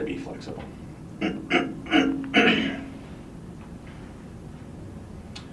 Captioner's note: clears throat